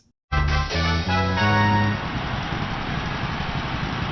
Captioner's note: Mario Kart countdown